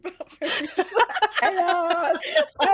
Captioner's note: everyone laughs